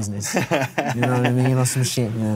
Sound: laughs

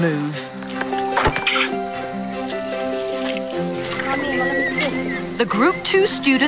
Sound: banging; orangutan moaning

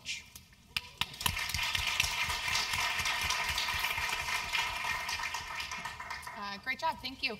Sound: applause

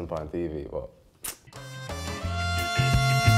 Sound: sucks teeth; reggae music

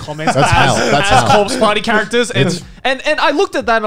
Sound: laughs

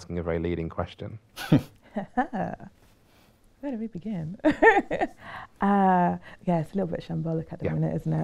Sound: laughs

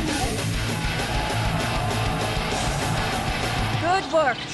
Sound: cheering that doesn't break Geneva convention

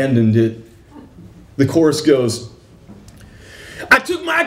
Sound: shouting

